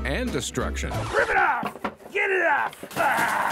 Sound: record scratch; ripping and tearing sounds

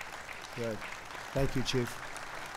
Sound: applause

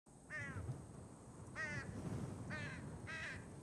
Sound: crows cawing

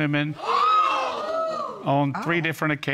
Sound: audience exclaiming

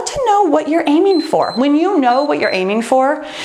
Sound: timer beeps

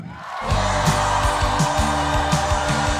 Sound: audience applause

